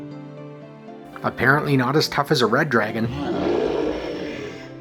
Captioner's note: roar